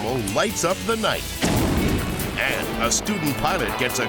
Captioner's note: explosion booms